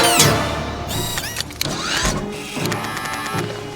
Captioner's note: robot whirs and buzzes; robot clicks and whirs; robot buzzes